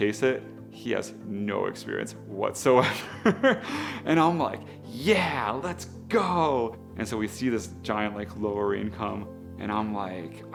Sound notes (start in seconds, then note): 3.0 laughs